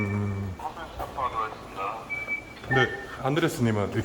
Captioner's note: transmitting